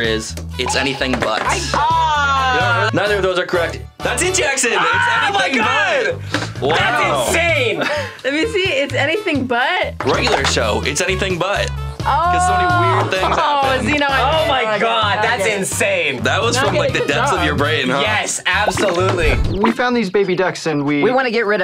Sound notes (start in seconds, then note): 1.4 both exclaiming; 5.5 shouting